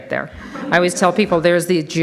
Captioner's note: audience laughs